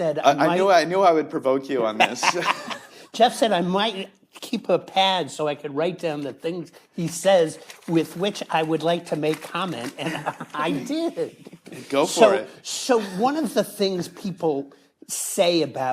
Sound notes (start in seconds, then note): 1.9 laughs